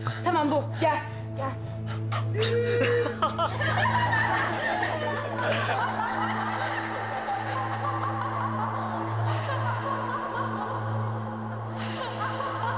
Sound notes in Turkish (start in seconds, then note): 2.2 Gülüyorlar